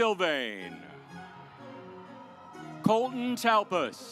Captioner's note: audience applauds